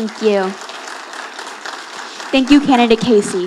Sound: audience applauding

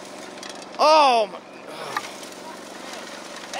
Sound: gasps

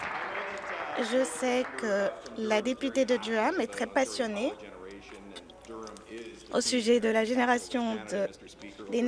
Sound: applause

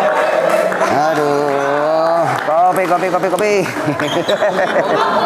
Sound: applause

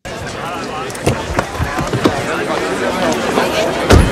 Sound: loud chatter

